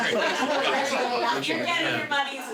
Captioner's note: laughing